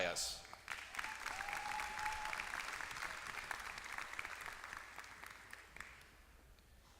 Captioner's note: applause